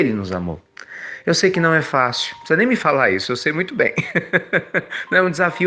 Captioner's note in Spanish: risas